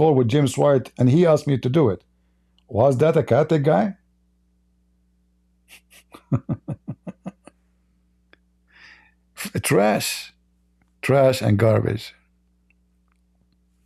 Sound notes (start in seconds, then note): 5.7 Ketawa